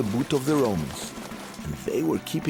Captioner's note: pattering